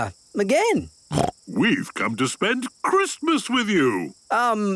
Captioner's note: snorting